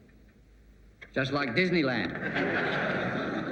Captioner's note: laughter